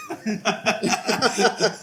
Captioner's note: laughs